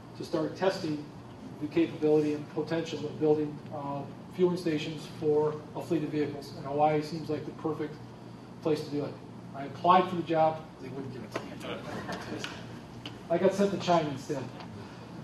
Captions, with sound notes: to start testing the capability and potential of building fueling stations for a fleet of vehicles, and Hawaii seems like the perfect place to do it. I applied for the job. They wouldn't give it to me. [ Laughter ] I got sent to China instead.